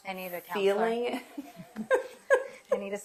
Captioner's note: laughs